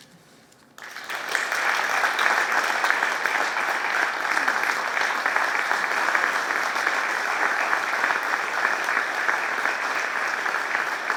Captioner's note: applause